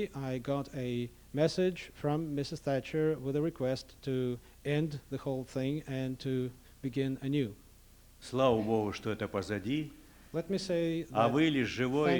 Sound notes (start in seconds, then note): 8.9 non-english speech; 11.5 non-english speech